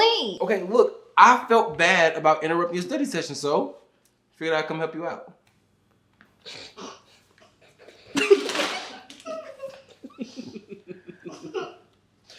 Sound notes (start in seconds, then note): 7.4 both giggle